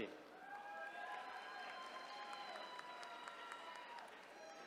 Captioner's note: attendees cheering